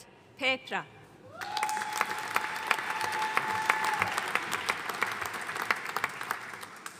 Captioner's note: audience cheering and applauding